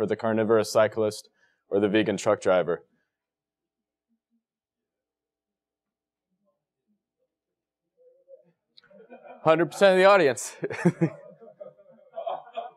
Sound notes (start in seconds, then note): 8.8 laugh